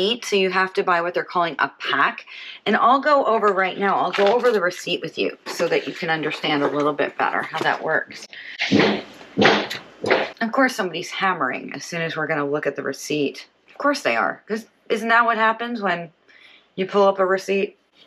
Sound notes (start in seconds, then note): 8.6 thudding